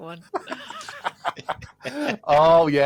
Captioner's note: laughter